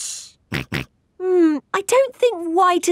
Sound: snorts

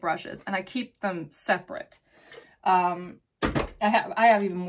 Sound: makeup box bangs

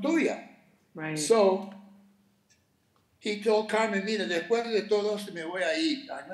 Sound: speaking Spanish

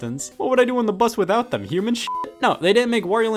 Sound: beep

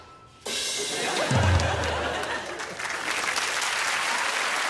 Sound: crowd laughs and applauds

